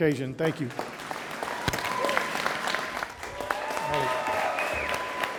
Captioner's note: audience applauding